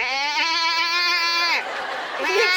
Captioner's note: goat noises